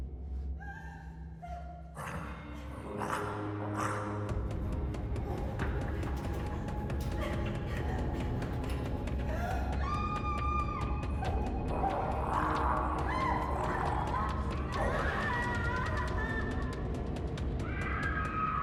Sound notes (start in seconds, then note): 0.1 Brynie gasping; 1.9 creature grunting; 4.5 rapid suspenseful music; 9.3 Brynie screaming; 11.8 creature grunting; 13.0 Brynie shrieking; 14.9 rapid suspenseful music; 17.6 Brynie shrieking